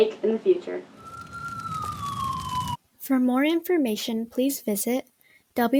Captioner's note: flames and sirens